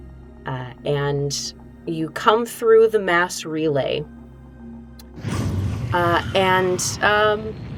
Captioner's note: ship wooshes